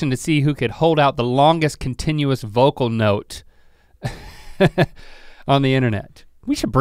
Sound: chuckles

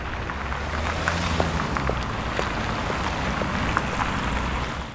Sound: footsteps and car noise

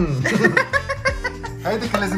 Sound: laughter

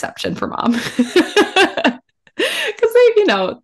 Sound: laughs

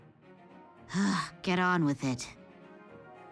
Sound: sigh

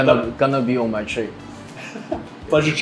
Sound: interviewer laughs

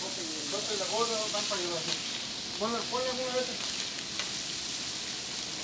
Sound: speaking in foreign language

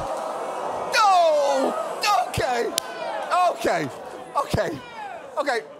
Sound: audience groans

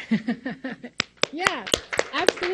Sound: crowd claps

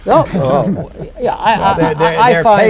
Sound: laughter

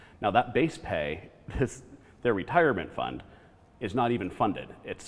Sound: none

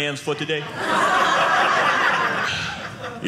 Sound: audience laughing

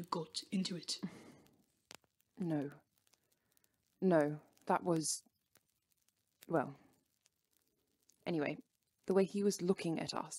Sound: Regulus breathes out forcefully

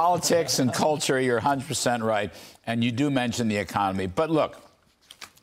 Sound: laughter

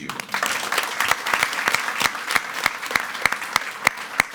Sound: attendees clapping

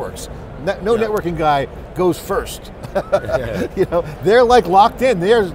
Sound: laughs

